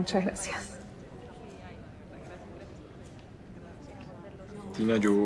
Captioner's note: lively chatter in the background